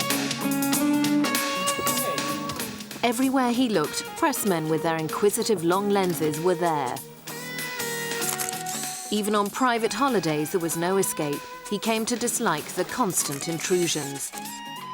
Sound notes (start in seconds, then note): 7.9 camera shutter clicking; 14.7 upbeat music